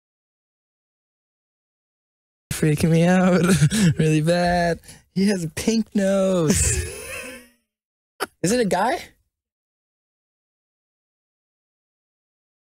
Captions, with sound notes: You're freaking me out *laughs nervously* Really bad He has a pink nose! *Laughs* Is it a guy?